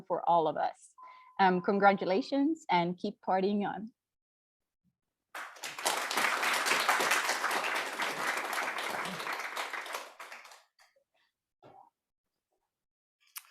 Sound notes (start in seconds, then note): 5.3 applause